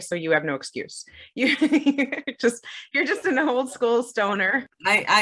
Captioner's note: laughs